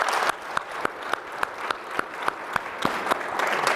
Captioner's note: applause